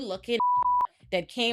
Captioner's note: beep